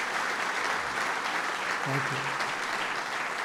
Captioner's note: applause